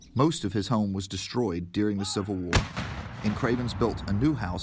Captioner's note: cannon fire